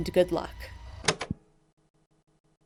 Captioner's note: tape recorder clicks off